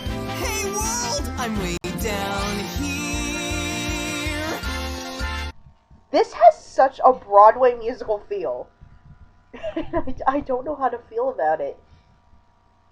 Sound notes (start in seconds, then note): 9.5 laughing